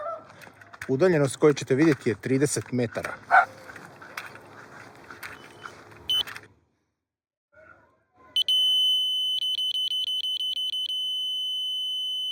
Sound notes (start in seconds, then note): 3.2 dog barks; 6.1 beep